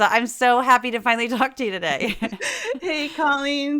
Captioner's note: laugh